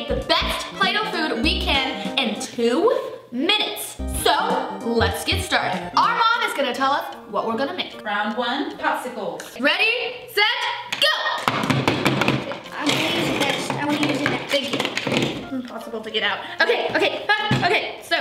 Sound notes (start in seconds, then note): 11.5 loud repetitive banging